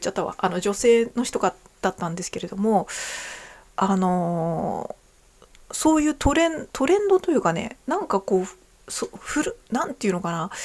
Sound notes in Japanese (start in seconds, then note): 5.1 鼻息